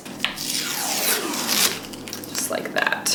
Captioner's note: adhesive peeling